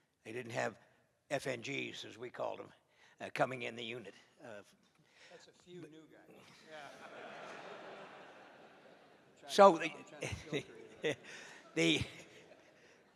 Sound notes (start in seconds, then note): 6.4 laughter